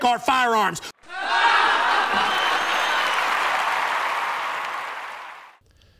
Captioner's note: laughter, applause